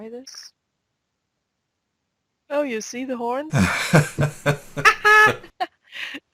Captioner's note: both laughing